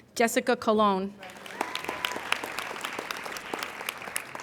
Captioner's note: applauding